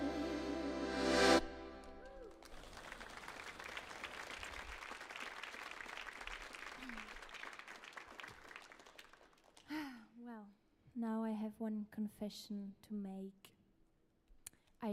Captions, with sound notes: (audience applauds) - Well, now I have one confession to make.